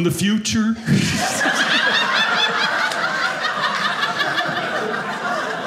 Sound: audience laughing

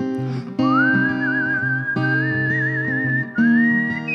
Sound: whistles

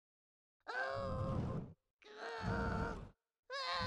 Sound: sounds of struggle

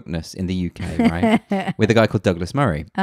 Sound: laughs loudly

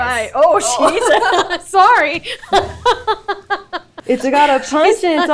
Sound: laughs

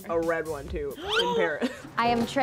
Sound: gasps

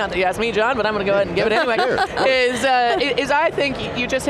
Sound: laughing

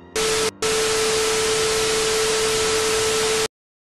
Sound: distorted static continues

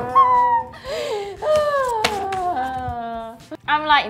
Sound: whines in pain

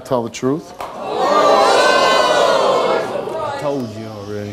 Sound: audience shouting

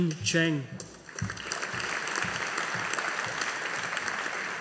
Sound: audience applauding

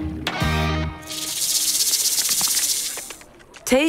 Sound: rattling sound

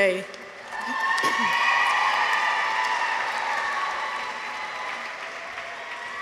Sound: audience applauds; people cheer

